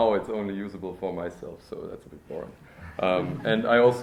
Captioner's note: laughter